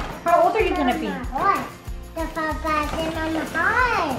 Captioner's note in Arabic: الثرثرة